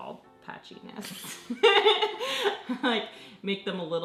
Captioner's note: laughs